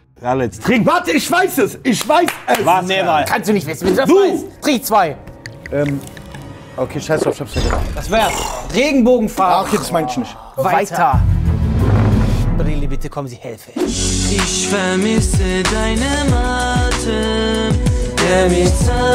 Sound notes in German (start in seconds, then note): 7.3 Gluckern; 11.1 Spannungsvolle Klänge